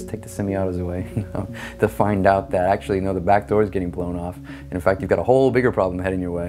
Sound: laugh

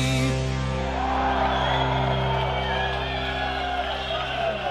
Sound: crowd cheering

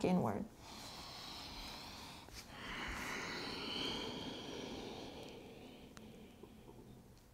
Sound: heavy breathing

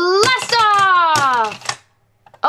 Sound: toy rattles

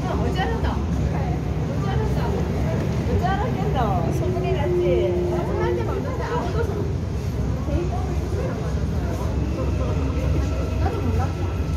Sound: Passing train passing Seoul Station

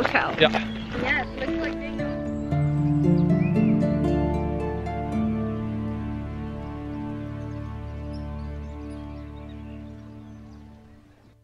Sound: acoustic Guitar, Harp & Drums, Fantasy Music; soft background chatter

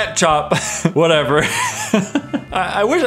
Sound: laughs

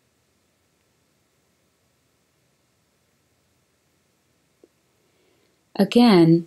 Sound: silence

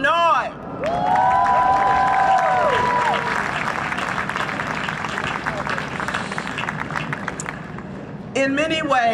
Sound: cheering and Applause

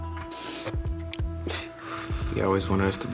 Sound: sniffling

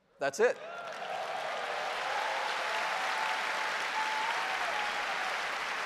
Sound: applause

